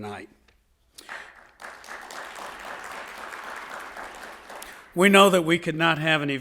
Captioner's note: audience applauding